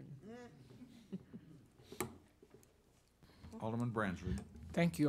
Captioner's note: group laughing